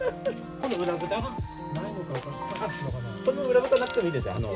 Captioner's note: laughs